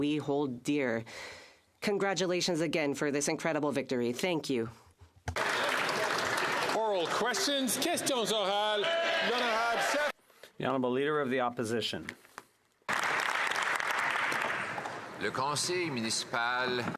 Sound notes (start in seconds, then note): 12.8 some Applause